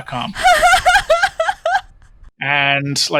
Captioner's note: laughing